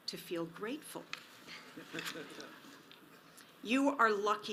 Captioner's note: audience laughs